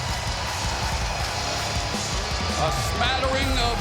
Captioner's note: crowd booing